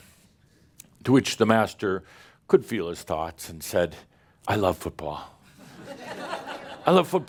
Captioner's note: laughter